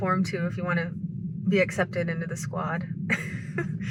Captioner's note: laughs